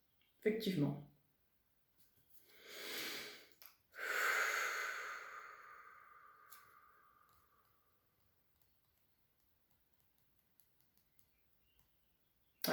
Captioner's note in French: soupir